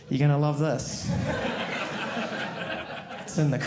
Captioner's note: audience laughing